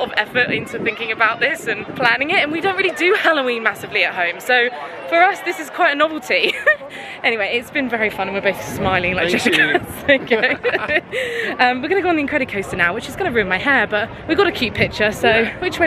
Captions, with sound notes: of effort into thinking about this and planning it, and we don't really do Halloween massively at home. So for us this is quite a novelty (giggling). Anyway, it's been very fun, and we're both smiling like Cheshire Cats. (both laughing) We're gonna go on the Incredicoaster now, which is gonna ruin my hair. But we've got a cute picture, so which way?